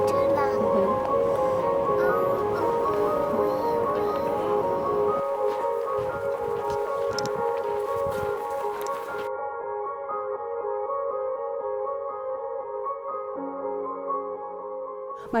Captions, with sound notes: - Not too long. (humming)